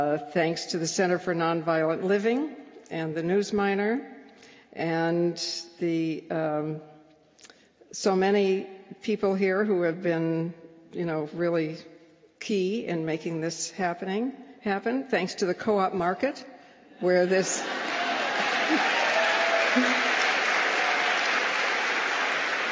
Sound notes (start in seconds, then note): 17.4 laughter; 17.6 applause